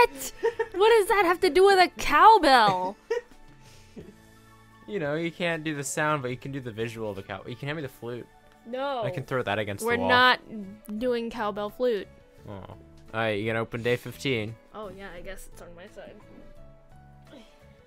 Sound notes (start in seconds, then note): 2.6 laughing